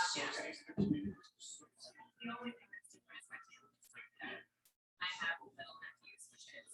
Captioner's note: people chattering indistinctly